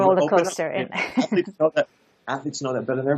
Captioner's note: chuckles